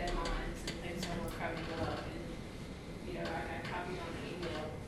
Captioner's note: softly talking off mic